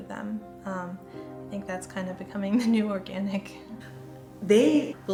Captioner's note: chuckles